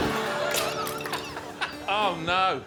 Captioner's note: audience laughing; iron thudding; harpsichord music; laughs; iron thudding